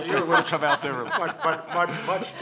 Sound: laughing

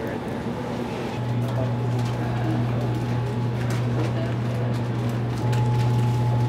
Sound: background machinery humming

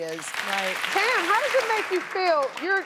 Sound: audience applauds

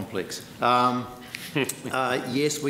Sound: laughs

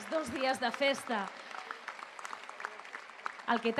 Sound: applause

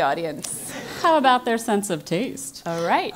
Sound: laugh

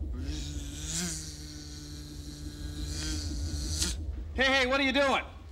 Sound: <i> buzzing</i>

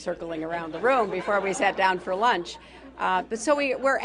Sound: laughter

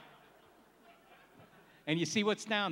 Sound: laughs

